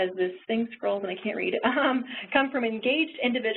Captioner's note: laughing